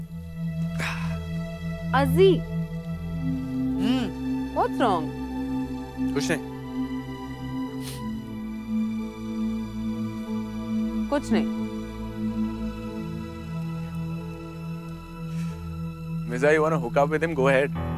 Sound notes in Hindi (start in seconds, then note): none